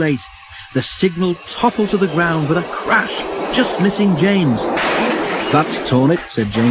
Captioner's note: crash